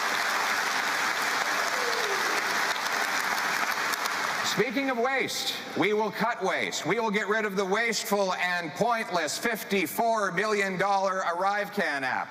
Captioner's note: cheering and Applause